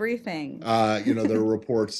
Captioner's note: laughter